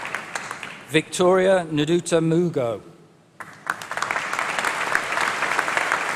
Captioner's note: applause